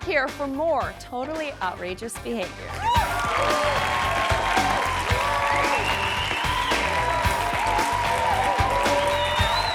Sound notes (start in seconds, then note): 2.8 audience cheering; 2.8 upbeat music